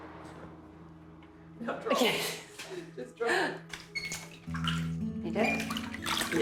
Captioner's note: laughs